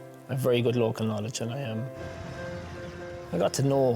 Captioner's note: birds squealing